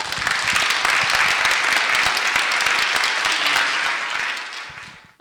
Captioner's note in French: applaudissements